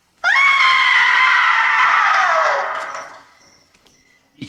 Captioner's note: screams